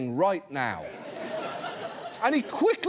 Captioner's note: audience laughs